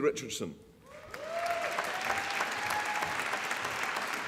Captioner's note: applause